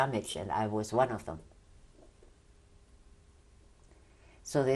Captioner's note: pauses for 3 seconds